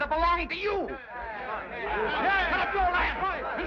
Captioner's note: men chatter